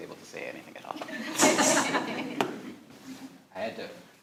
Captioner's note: all laughing